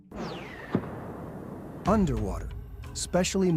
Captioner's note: missile flying over